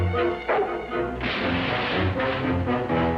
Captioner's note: crashing